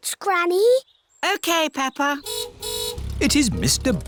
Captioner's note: car horn honks